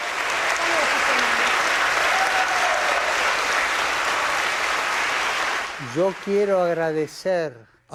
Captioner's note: applause